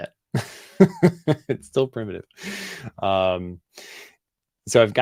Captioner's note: laughs